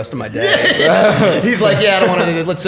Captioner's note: laughter